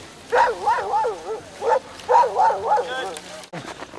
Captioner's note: dogs barking